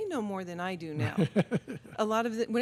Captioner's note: laughs